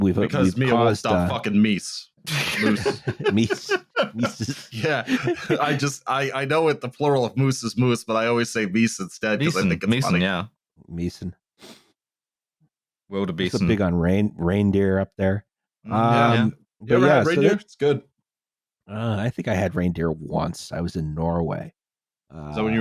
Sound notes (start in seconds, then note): 2.2 laughs